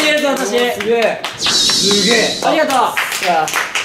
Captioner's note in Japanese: スタッフからの拍手; スタッフからの拍手